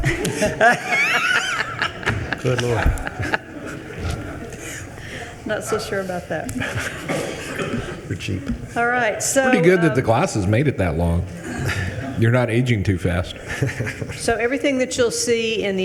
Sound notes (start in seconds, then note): 0.1 attendees laughing; 7.3 attendees laughing